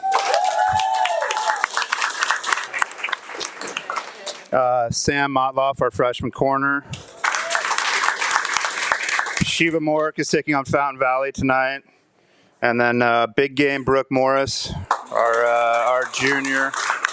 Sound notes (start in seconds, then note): 0.0 audience applauding and cheering; 7.0 audience applauding; 16.9 audience applauding